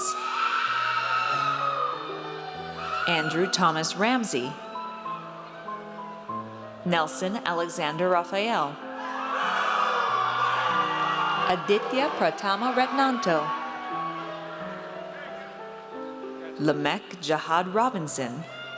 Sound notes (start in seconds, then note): 0.0 audience cheers; 8.9 audience cheers